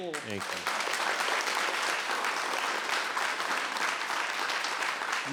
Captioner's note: audience applauds